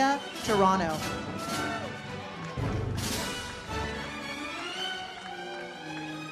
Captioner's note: audience applauds